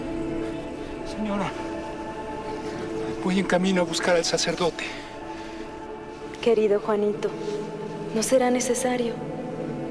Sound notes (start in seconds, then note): 1.5 speaking spanish